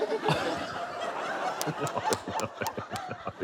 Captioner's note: laughs